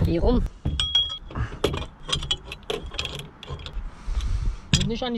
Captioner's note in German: klimpern